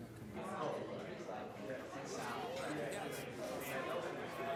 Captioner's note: chattering